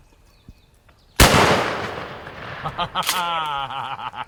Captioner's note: gun shot; laughing